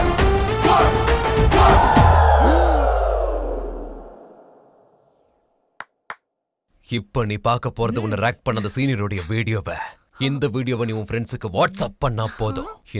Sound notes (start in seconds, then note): 2.2 gasps; 6.0 claps hands